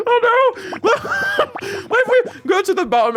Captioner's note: blarrGGHh